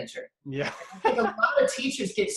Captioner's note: laughs